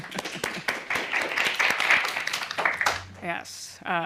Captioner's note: applause